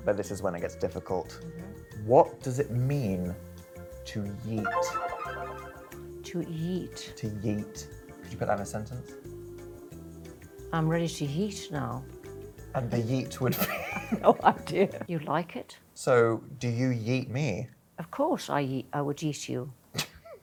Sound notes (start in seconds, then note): 4.6 suspenseful music; 13.6 laughing; 20.2 laughing